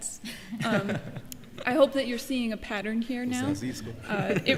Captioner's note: laughter